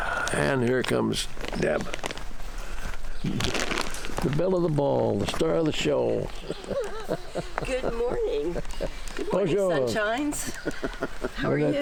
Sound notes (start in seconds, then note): 6.0 laughs